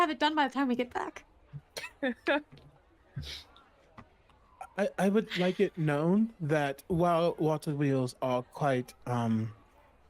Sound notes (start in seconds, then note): 2.0 chuckles